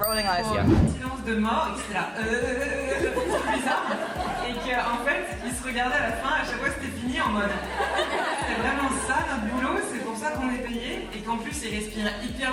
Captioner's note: speaking in French